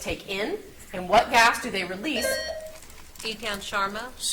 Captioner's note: buzzer beeps